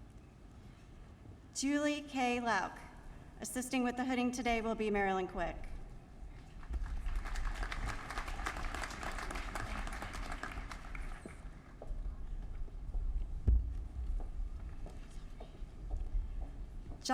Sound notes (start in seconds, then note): 6.4 applause